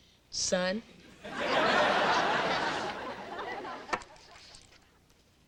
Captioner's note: audience laughing